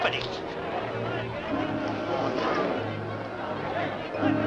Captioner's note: crowd muttering; dramatic music